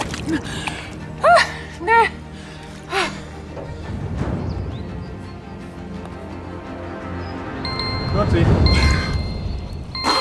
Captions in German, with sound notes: [seufz] Nee... (Klingelgeräusch) Vierzig.